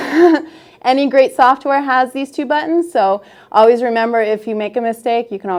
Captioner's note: laughs